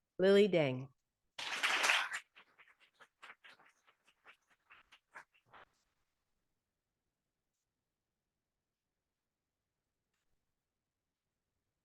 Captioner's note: audience applauding